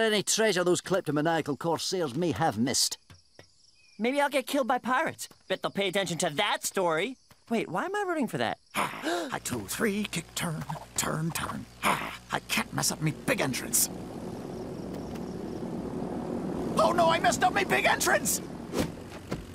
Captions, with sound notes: those kleptomaniacal corsairs may have missed. Maybe I'll get killed by pirates. Bet they'll pay attention to that story. Wait, why am I rooting for that? Ugh, a two three, kick-turn, turn turn agh. I can't mess up my big entrance. [plane engine] Oh no, I messed up my big entrance.